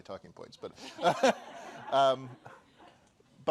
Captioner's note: laughter